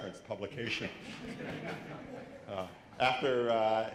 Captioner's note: laughter